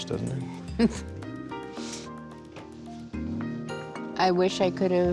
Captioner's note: nervous chuckle